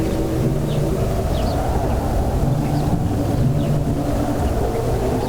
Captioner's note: wind howling